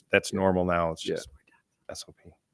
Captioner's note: speaks faintly